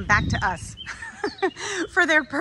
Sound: woman laughs

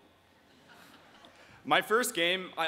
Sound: audience quietly chuckling

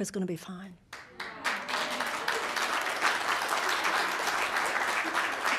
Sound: audience applauding

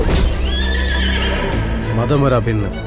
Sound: horse neighing

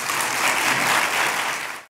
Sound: applause

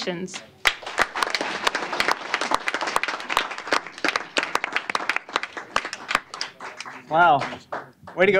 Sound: applause

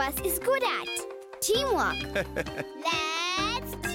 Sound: Peter chuckles

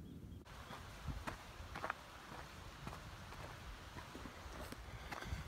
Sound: footsteps on ground

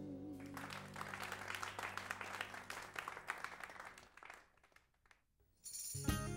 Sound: audience applauding; audience cheering

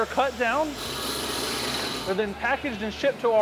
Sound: tool whirring

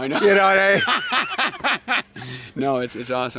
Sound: laughing

